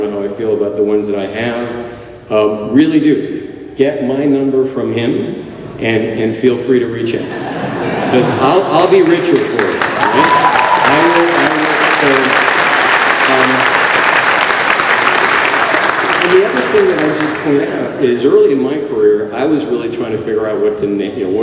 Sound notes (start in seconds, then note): 9.0 applause